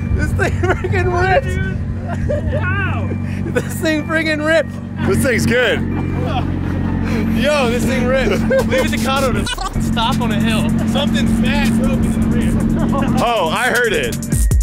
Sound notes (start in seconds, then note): 9.4 beep